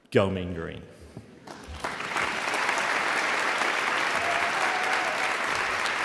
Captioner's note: audience applauding